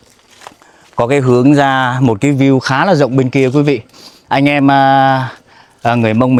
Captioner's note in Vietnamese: khịt mũi